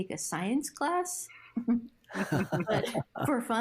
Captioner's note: laughs